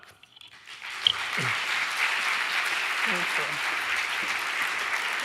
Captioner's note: audience applauding